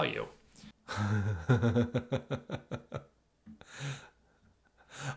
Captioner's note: chuckling